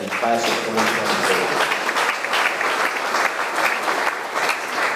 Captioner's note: audience clapping